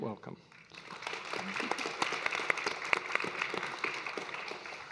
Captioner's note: audience clapping